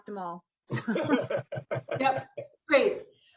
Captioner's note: laughing